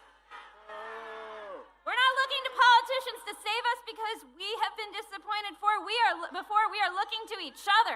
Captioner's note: booing